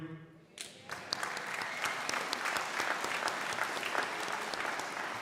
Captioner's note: crowd cheering and applauding